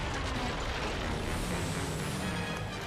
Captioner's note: crash